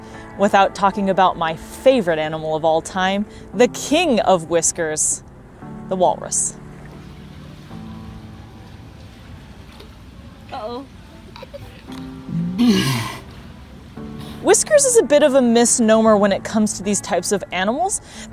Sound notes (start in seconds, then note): 6.9 background music; 12.2 walrus vocalization